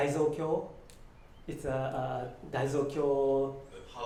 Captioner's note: japanese